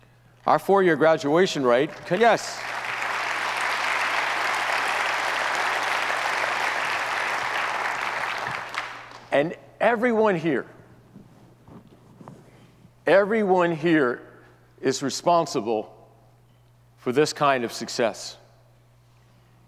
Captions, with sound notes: Our four-year graduation rate, yes. (audience applauds) And everyone here, everyone here is responsible for this kind of success.